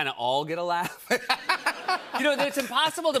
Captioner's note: laughter